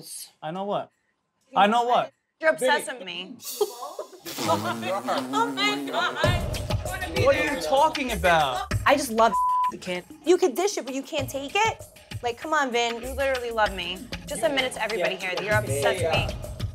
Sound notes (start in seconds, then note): 3.5 laughing; 6.5 laughs; 9.3 beep